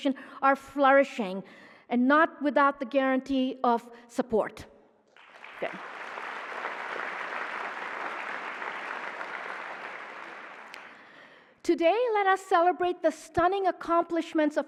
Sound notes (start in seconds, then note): 5.1 applause